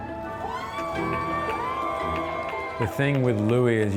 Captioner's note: crowd cheers